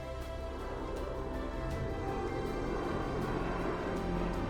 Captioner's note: aircraft engine revving